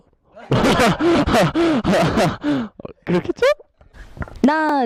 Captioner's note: his voice cracking aosdjfasiof